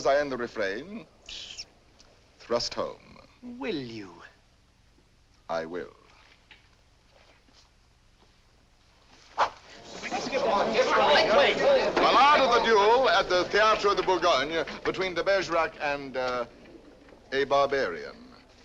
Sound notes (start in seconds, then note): 9.8 excited crowd